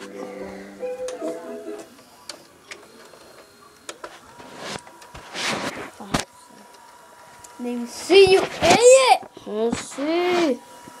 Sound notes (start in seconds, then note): 2.6 mechanical Whirring